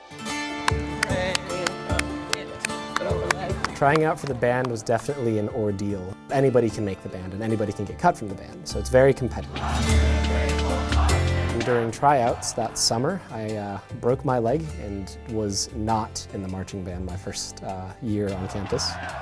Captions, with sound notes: (upbeat music) (clapping) Trying out for the band was definitely an ordeal. Anybody can make the band, and anybody can get cut from the band. So it's very competitive. During tryouts that summer I broke my leg and was not in the marching band my first year on campus.